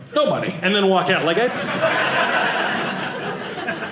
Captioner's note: audience laughing